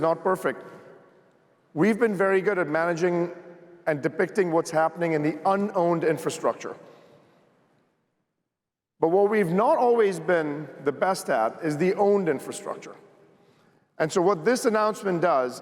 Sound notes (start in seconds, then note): none